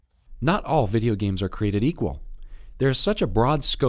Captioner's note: voiceover